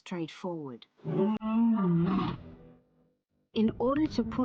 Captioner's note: lion roars